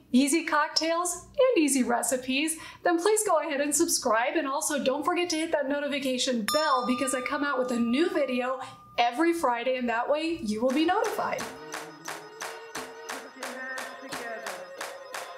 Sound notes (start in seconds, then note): 6.5 bell rings; 10.6 upbeat hip hop music; 10.7 group clapping